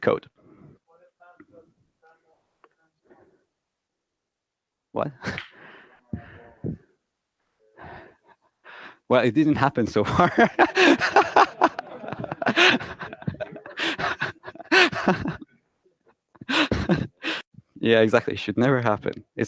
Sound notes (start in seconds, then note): 5.9 laughs loudly; 10.0 laughs loudly along with audience